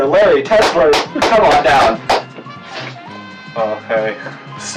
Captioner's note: clapping